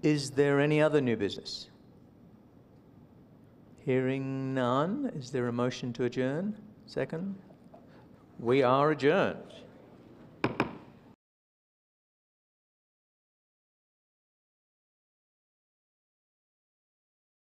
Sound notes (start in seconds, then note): 10.4 gavel bangs